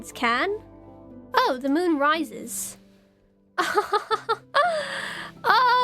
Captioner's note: laughs